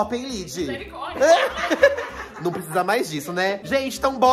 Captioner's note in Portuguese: risos